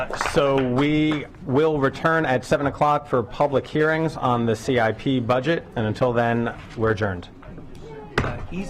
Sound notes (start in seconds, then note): 2.2 applause